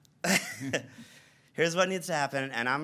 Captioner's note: laughs